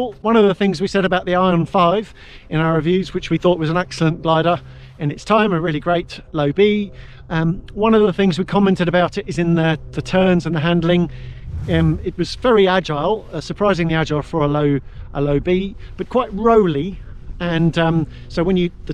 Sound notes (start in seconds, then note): 11.2 air whooshes